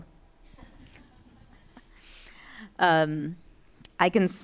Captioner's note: audience laughing